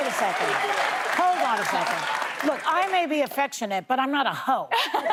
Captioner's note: applause